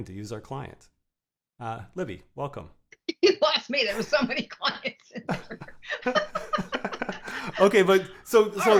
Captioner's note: laughter